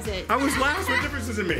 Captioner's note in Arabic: يضحك